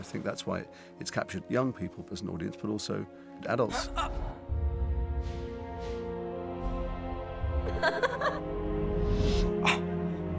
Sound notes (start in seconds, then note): 7.7 laughing